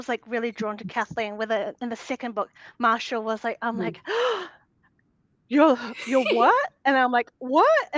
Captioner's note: gasping